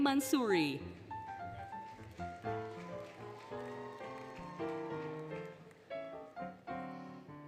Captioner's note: applause, Cheering, Music